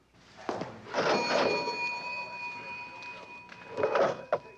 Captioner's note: register ringing